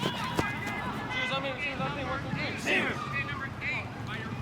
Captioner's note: footsteps rustles; team huddle chants